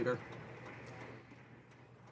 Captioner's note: some Applause